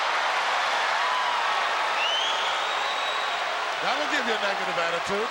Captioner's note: crowd chattering